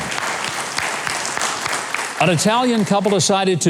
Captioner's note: claps